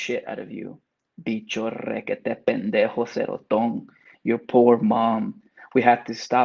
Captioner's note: speaks Spanish